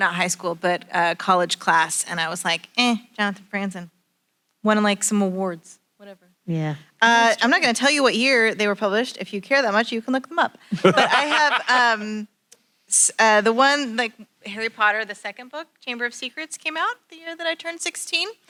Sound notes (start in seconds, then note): 10.7 laughs